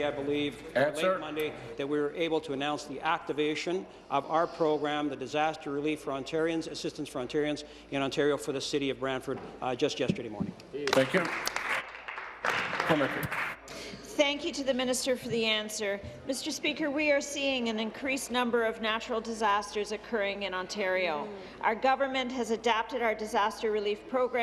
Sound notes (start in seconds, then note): 14.7 applause